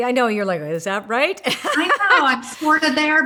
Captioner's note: laughing